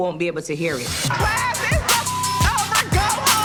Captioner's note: beep